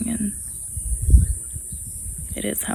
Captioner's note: wind gusts